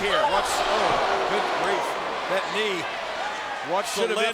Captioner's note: spectators exclaiming